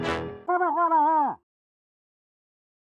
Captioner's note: muffled happy noises